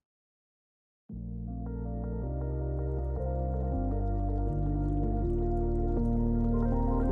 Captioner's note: water trickles; calming music